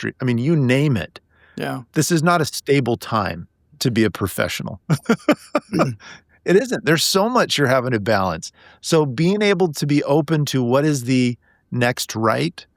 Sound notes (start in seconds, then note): 4.9 laughing